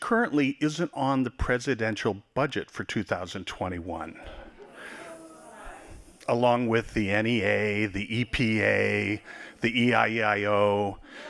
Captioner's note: laughing